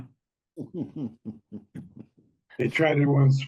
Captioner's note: panel laughs